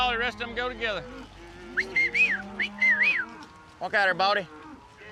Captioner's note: whistling